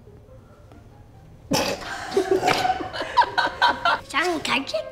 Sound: all laugh

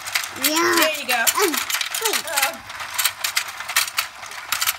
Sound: voiceover

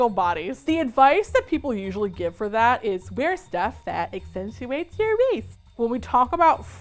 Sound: high-pitched voice

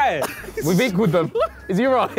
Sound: laughing

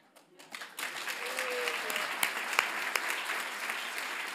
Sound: audience applauds

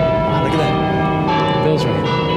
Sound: bells Ringing

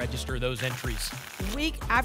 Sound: tickets shuffling

